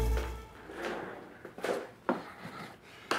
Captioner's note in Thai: เสียงลากเก้าอี้